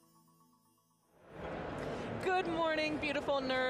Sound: crowd bustling

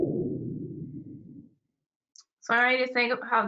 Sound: low pitched bloop

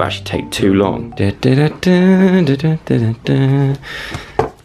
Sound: hums tune

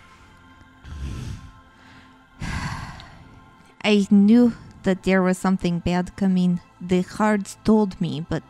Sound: sighs

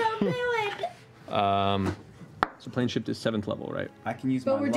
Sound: chuckles

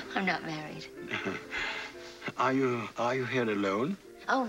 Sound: light laughter

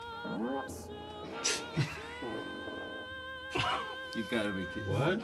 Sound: fart Sound; laughter

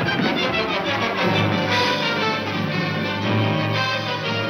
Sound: engines revving

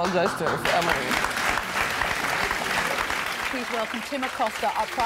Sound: applauding

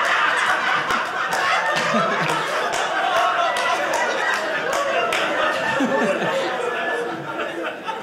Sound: audience laughing

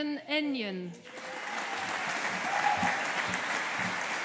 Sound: audience applauding

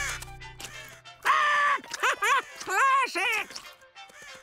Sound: laughing

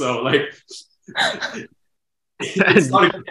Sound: both laughs

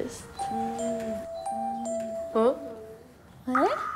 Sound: bell ringing

